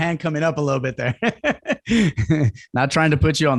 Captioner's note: laughs